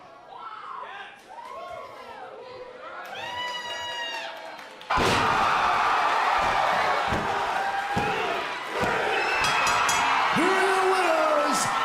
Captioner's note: crowd chatter